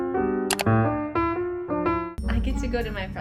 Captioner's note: mouse clicking